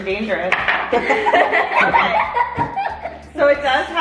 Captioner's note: all laugh